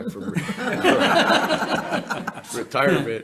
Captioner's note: members laughing